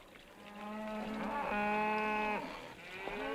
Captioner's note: cows mooing